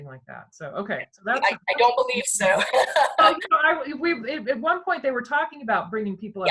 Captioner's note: laughter